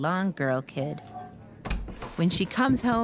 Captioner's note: door opens